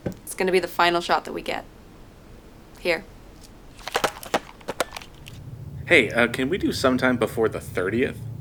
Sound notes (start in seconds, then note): 3.7 camera rattling around